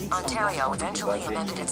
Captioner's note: text-To-Speech Voice